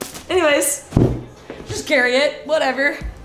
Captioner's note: none